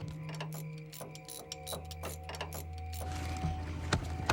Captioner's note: wrench tightening